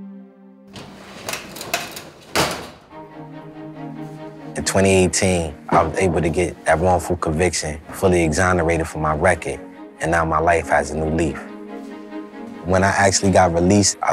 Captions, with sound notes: (door rattling) (lively orchestral music) In 2018, I was able to get that wrongful conviction fully exonerated from my record, and now my life has new meanin'. When I actually got released,